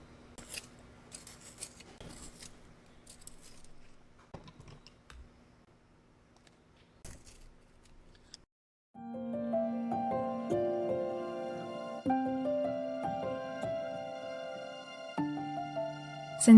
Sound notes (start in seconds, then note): 1.1 sharpener noises